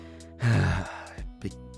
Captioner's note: sigh